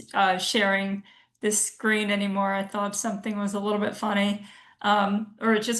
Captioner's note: none